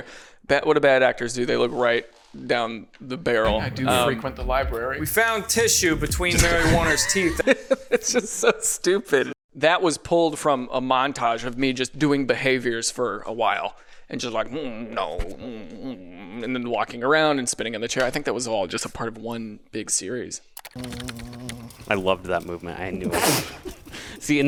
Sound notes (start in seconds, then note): 7.6 laughs; 15.6 grumbles